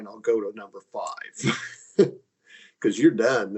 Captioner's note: laughing